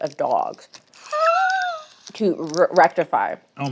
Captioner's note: laughs